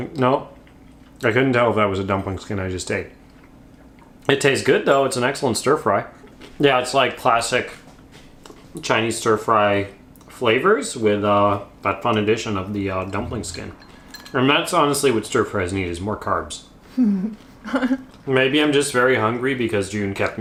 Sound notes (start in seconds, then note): 16.9 laughs